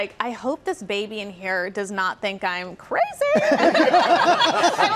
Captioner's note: laughter